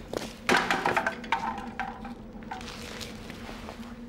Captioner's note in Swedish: skräp klapprar